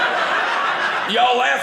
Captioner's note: audience laughing